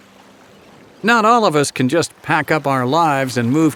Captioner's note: voiceover